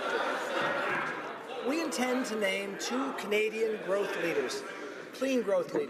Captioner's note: crowd Noise